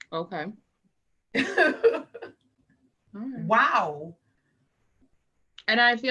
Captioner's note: laughs